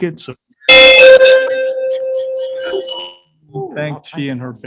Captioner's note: microphone clinging